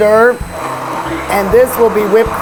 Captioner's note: blender whirling